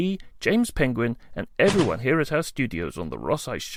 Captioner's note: crash